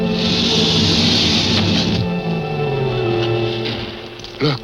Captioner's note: alligator hissing